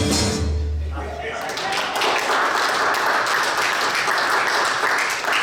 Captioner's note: audience applauds